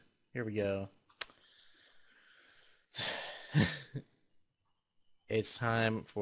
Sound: heavy sigh

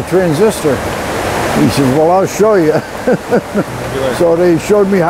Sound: laughs

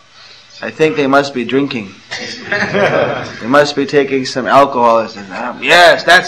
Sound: laughter

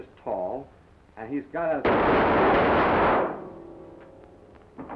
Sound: gun firing

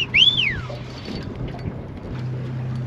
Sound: short whistles; reel cranking

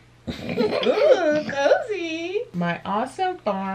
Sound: giggling

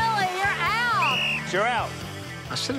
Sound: whistle blows

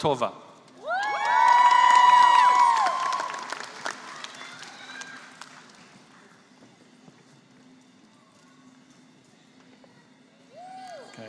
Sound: applause

